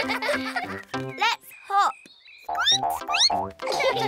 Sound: squeaks; all giggle

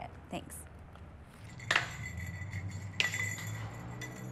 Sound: bells jingle

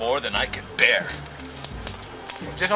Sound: fire crackling

